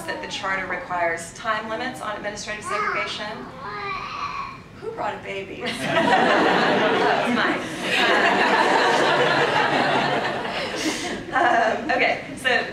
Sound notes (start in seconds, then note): 2.6 baby crying; 7.8 audience laughs